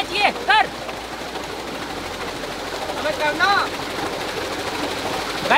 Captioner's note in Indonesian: Suara turbin